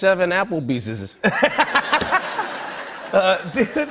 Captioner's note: laughter